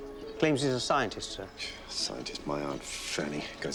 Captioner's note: scoffs